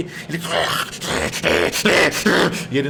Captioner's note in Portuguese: som de zumbi de sangue